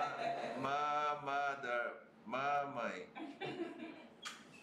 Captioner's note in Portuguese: risos